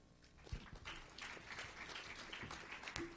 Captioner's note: applause